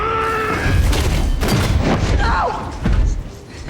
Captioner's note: Maximus yelling; Maximus thudding; fist pounding